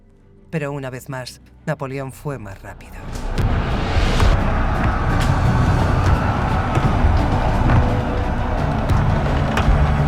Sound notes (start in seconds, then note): 2.5 intense music; 4.4 soldiers roaring